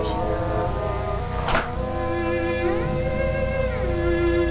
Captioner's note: eerie music; wood knocking